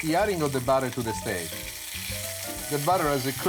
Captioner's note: loud sizzling